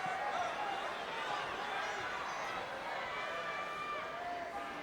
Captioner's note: crowd chattering